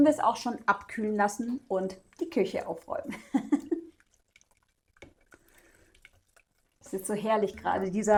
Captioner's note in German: gelächter